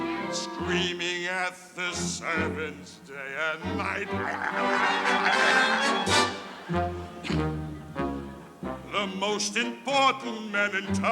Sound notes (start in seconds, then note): 4.0 grumbling; 6.3 audience laughing